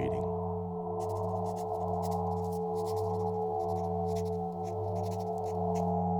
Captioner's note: pen on paper writing sound